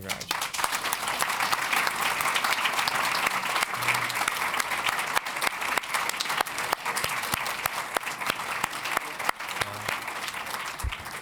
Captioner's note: applause